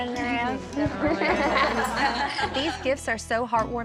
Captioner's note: everyone laughs